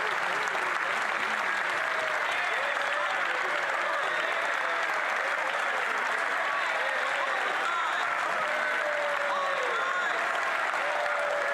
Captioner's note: some Applause